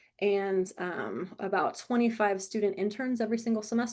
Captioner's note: none